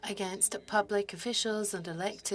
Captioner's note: speaking French